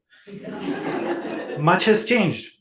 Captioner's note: audience laughs